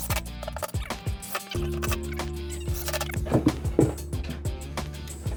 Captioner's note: tape fast forwarding; gentle music